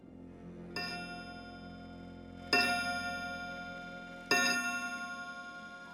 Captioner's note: clock chiming